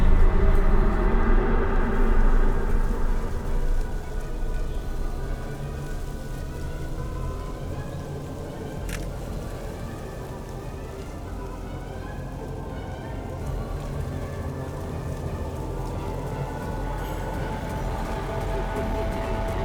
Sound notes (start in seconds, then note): 0.1 eerie music; 9.2 phone camera clicks; 14.8 eerie music continues